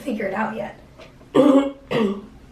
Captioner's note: clears throat